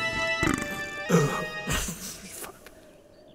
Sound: belches

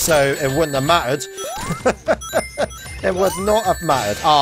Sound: laughs

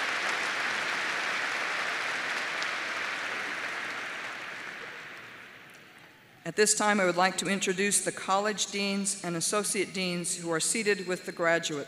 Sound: applause

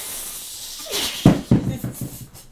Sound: Iris shushes them all

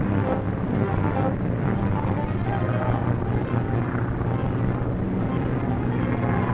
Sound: dramatic music; engines droning; suspenseful music

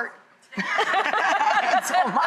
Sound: audience laughter

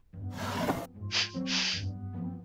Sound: sniffing

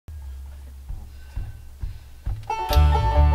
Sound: low percussive tapping

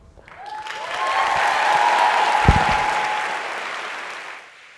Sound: audience applauds

